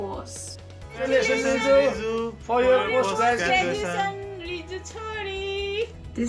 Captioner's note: speaking in foreign language